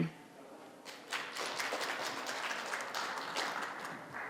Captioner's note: applause